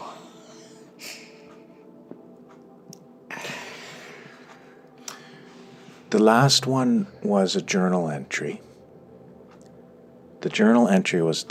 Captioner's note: emotionally sighing